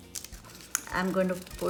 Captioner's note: paper rustling